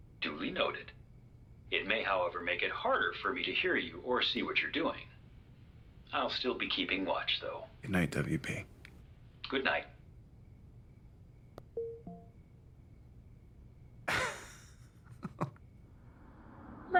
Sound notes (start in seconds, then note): 11.8 phone chiming; 14.0 Kent chuckling